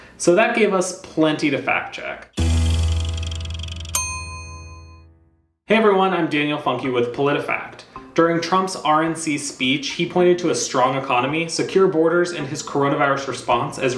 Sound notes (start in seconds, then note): 2.3 upbeat music; 3.8 bell chimes